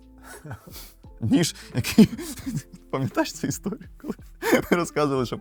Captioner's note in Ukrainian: сміх